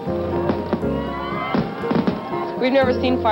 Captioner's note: crowd cheering; cracking, popping